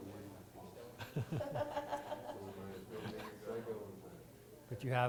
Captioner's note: laughter